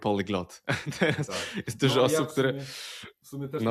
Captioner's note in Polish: śmiech